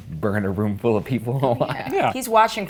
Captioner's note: chuckling